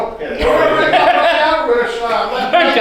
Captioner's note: laughing